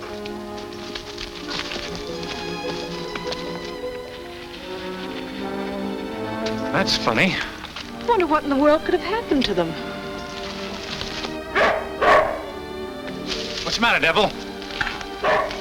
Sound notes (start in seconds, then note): 1.2 grass rustles; 11.5 dog barks; 15.2 dog barks